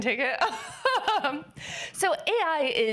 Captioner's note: laughing